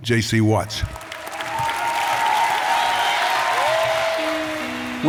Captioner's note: applause